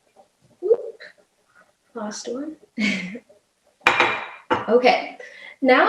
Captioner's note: laughs